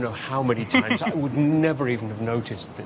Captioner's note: laughs